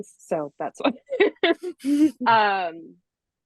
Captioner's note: laughs